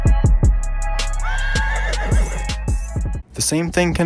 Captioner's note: neighing